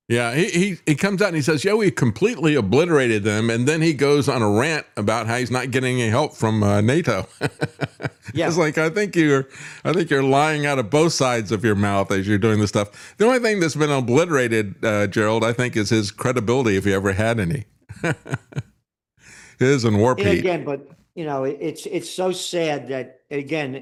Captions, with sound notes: Yeah, he comes out and he says, yeah, we completely obliterated them and then he goes on a rant about how he's not getting any help from NATO. (Laughs) It's like I think you're lying out of both sides of your mouth as you're doing this stuff. The only thing that's been obliterated, Gerald, I think is his credibility if he ever had any. It is an war peat. Yeah, again, but it's so sad that, again,